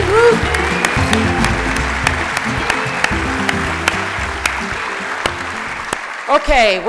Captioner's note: applause